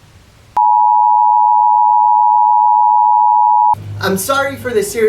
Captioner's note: lost signal